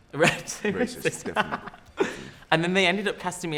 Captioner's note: laughter